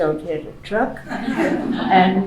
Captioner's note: laughing